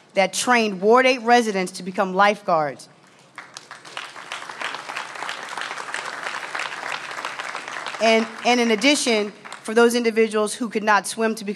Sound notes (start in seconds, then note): 5.4 applause